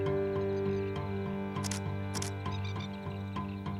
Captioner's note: camera clicks